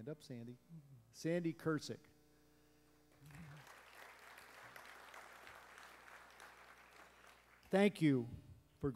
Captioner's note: applause